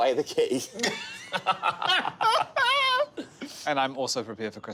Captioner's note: all laughing